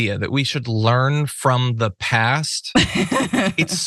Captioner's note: laugh